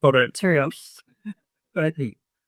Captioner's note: speaking faintly off mic